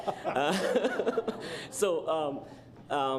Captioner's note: laughter